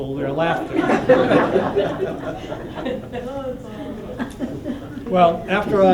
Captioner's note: laughter